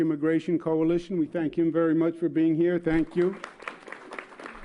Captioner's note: applause